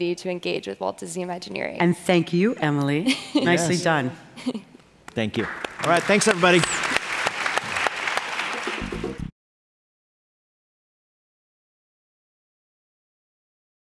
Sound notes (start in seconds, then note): 8.0 applause